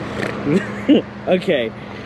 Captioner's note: giggling